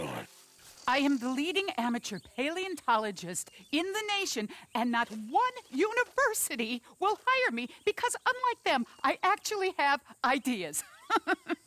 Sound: laughs

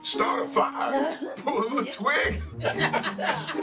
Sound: chuckling

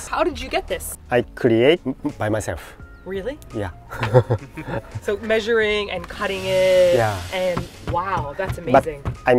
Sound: laughs

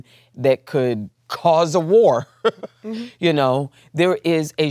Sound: laughs

